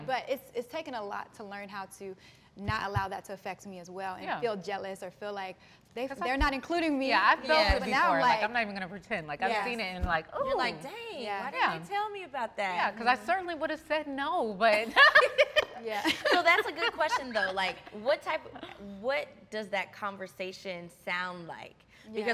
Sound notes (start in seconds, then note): 14.8 all laughing